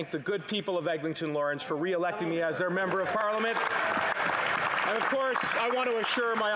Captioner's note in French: voix de l'interprète